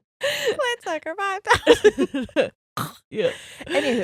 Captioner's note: both laughing